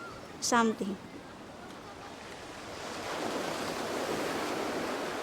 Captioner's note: waves whoosh